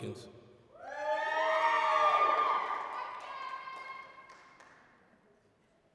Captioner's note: applause, cheering